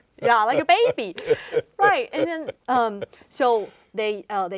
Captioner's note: laughing